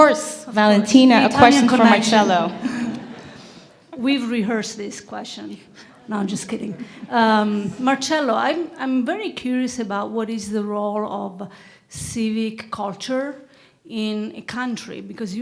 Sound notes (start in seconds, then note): 3.8 laugh